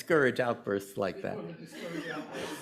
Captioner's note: laughter